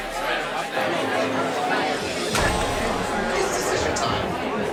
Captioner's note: crowd talking